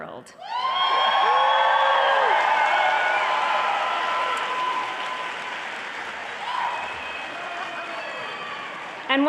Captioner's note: applause and cheering